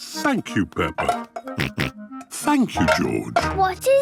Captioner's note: snorts